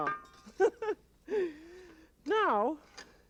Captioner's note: chuckles